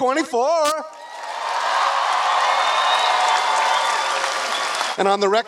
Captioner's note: applause